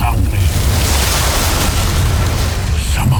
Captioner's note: evil energy whoosh & crackle